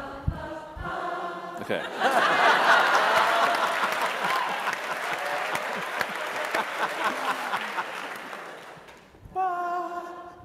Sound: laughing and clapping

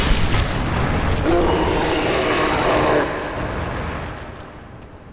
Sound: none

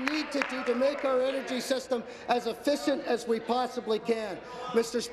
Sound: applause

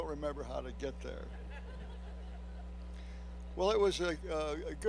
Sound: laughing

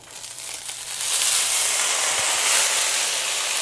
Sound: sizzling

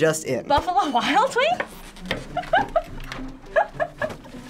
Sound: laughing

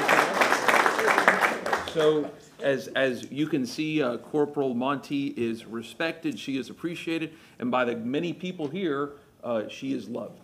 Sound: applause

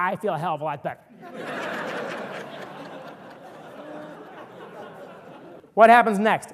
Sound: audience laughter

